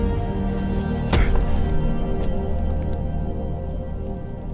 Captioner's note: head thudding